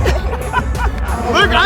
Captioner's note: laughing